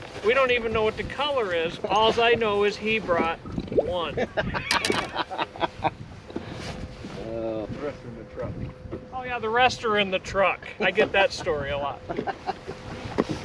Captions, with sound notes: We don't even know what the color is. All I know is he brought one (laughter) The rest are in the truck... Oh, yeah. The rest are in the truck. I get that story a lot (laughter)